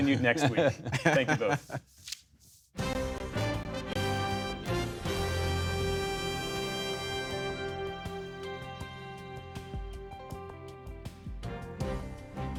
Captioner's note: laughter